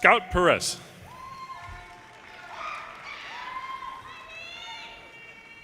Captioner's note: audience cheers and applause